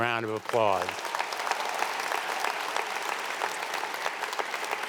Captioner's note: audience applauding